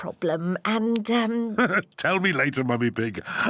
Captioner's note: laughs